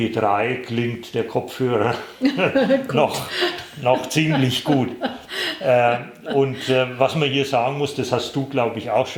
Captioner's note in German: sie lachen beide